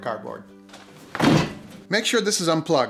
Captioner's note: clunk